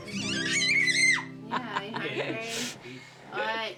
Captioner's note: screams